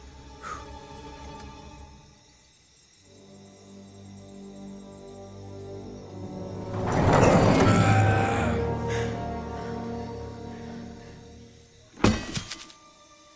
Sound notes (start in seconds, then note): 6.6 clangs; 7.6 gasps; 7.8 chester grunts; 12.0 clangs